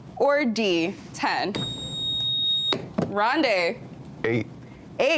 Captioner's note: buzzer beeps